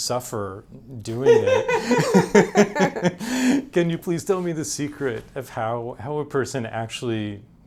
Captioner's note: both laughing